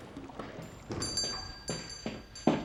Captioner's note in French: cloches qui sonnent